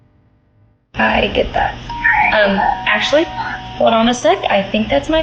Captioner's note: doorbell rings